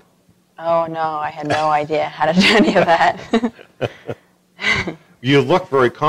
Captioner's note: laughter